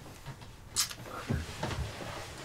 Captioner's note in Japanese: ちゅっ; チュッ